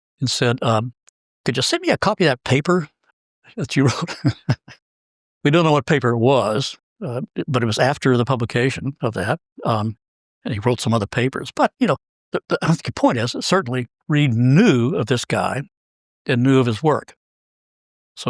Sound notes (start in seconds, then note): 3.7 laugh